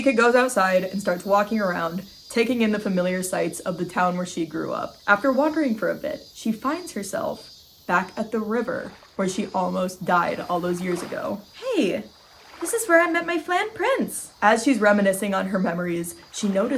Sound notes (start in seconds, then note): 11.3 water sloshing